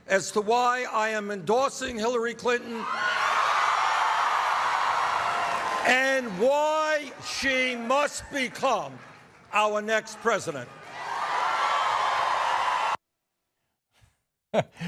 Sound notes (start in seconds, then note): 3.4 cheers and applause; 11.3 cheers and applause